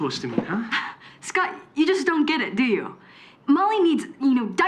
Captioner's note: scoffs